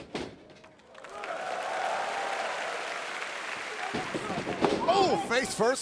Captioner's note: audience applauding